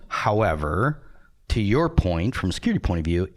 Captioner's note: none